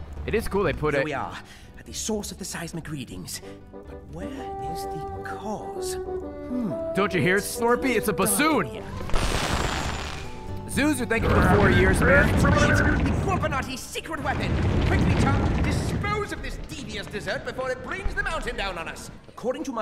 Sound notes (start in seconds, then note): 5.6 bassoon alert plays